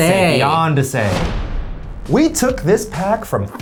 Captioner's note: metal thudding